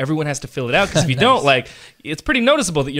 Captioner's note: laughs